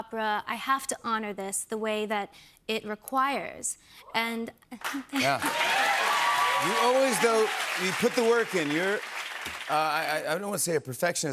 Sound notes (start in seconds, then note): 5.1 cheers and applause